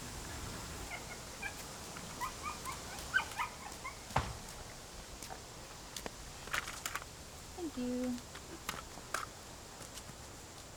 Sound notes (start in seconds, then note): 0.0 wind blowing; 2.2 dog whining; 8.7 sound of crutches